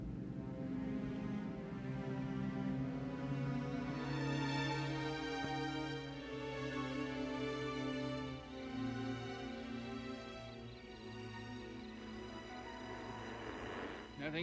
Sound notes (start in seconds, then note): 0.1 suspenseful music; 8.6 insects chittering; 13.0 coffin lid creaking